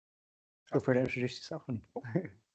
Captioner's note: chuckles